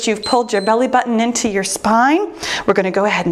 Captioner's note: timer beeps